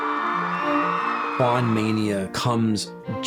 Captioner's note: muffled cheering